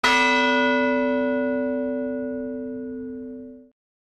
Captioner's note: bell ringing